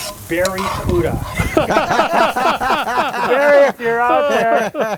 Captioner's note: all laughing